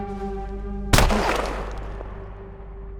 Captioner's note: gunshot